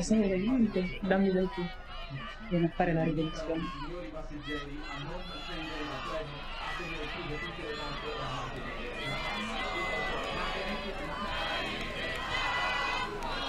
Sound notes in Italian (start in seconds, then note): 1.5 urla e proteste all'esterno; 3.9 urla e proteste all'esterno crescono; 5.8 folla urla slogan e insulti